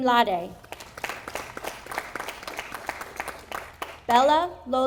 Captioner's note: audience applauding